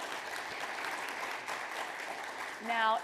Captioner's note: audience applauds